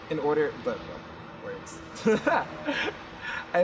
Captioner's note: laughs